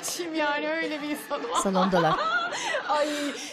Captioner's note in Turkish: Gülme sesi